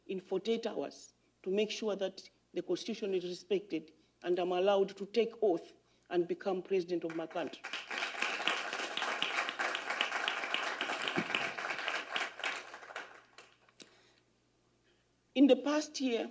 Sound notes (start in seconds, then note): 11.3 applause